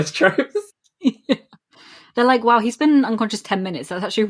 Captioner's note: laughing